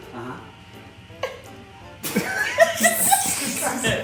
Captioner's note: laughing